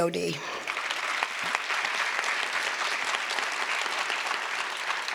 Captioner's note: audience applause